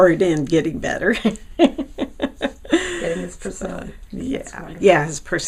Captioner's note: laughing